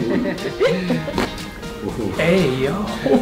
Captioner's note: woman laughing; bones cracking